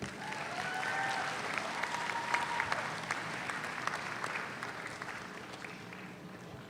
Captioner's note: audience applauds; audience cheers